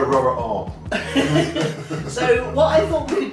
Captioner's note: laughing